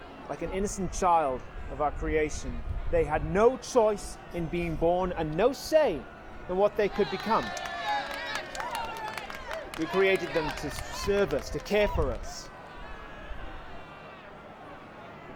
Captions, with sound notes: Like an innocent child of our creation, they had no choice in being born and no say in what they could become. [CROWD CHEERS] We created to serve us, to care for us-- [DISTANT YELLING]